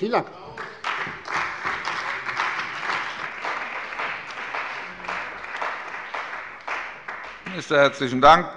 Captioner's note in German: Beifall bei der CDU und dem BÜNDNIS 90/DIE GRÜNEN